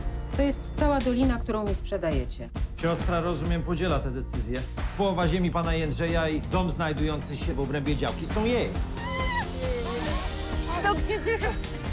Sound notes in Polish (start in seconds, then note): 8.9 radosny okrzyk